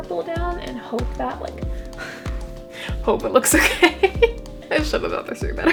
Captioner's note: laughing